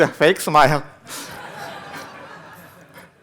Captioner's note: laughter